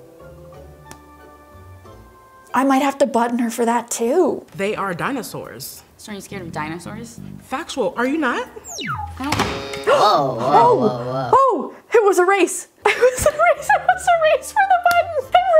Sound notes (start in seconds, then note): 8.6 button beeps; 8.6 button buzzing